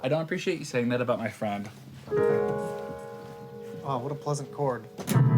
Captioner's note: keys tinkling